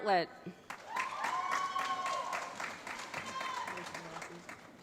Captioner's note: applause